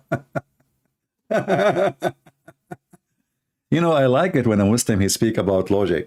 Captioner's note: Ketawa